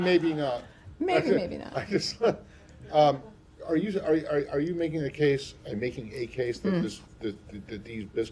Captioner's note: laughter